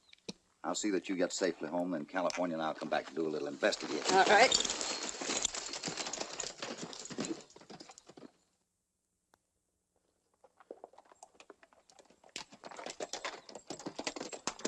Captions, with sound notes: I'll see that you get safely home, and California and I'll come back to investigate. All right. [ HORSES TROTTING ]